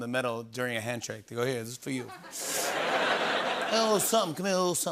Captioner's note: laughter